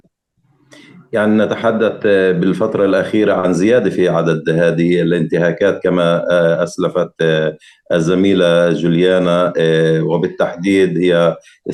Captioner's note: speaking arabic